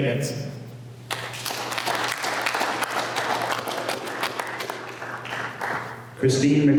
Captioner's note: applause